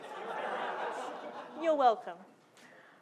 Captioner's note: audience laughing